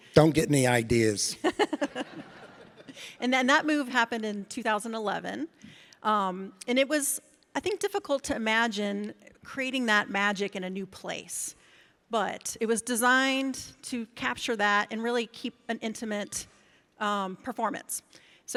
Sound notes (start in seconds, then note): 1.4 laughs; 1.4 audience laughs